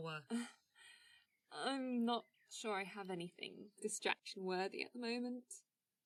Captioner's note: laughs